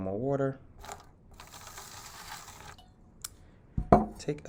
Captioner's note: pouring